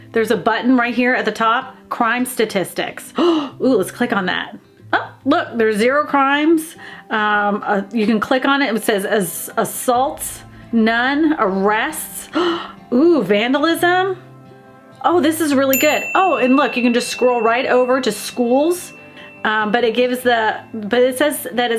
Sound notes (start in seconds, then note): 3.2 gasps; 12.3 gasps; 15.7 bell dings